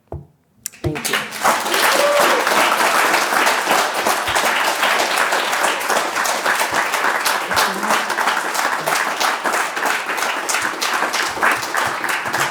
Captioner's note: applause